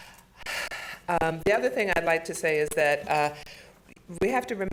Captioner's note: sighs